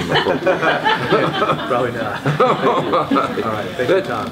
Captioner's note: laughs